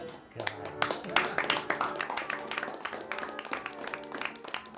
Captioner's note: group applauding